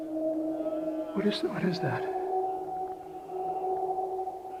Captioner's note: animal groaning